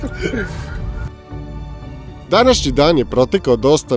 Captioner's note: laughs